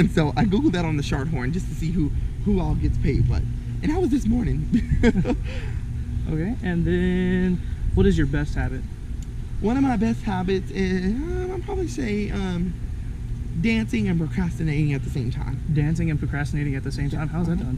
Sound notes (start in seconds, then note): 4.6 laughs